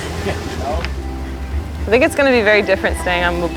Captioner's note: laughs